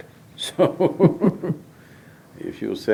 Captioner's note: laughs